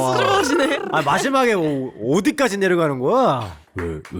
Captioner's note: excavator voice